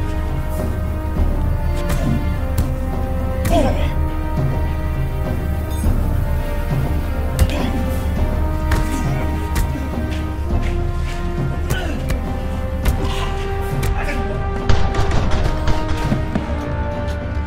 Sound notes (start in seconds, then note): 11.6 choking Sound; 12.2 thud; 14.6 gunfire